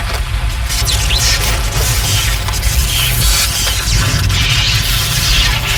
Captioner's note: electric buzzing